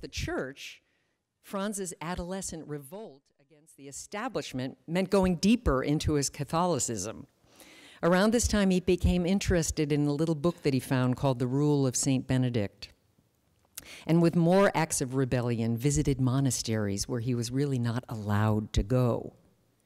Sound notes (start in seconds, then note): none